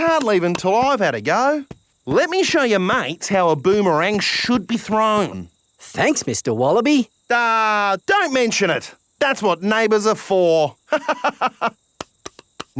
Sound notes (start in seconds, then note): 10.8 laughs